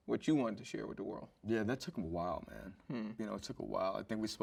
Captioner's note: none